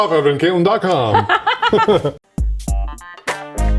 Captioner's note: laughing; upbeat music